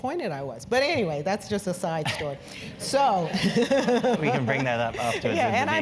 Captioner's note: laugh